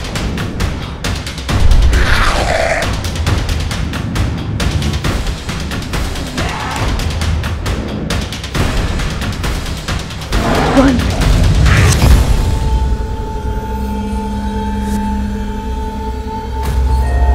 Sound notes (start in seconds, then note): 1.9 growling